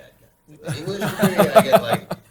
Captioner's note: laughter